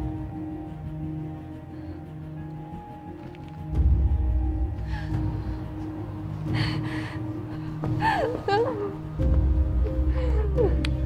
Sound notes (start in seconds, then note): 0.9 light music; 5.1 whimpering